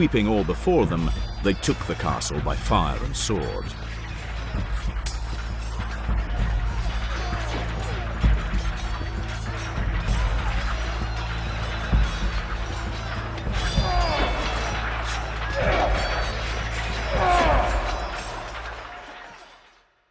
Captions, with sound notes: sweeping all before them, they took the castle by fire and sword. [Sounds of close combat, music plays in background]